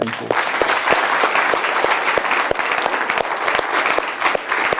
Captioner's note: audience applauding